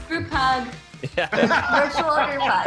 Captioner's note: laughing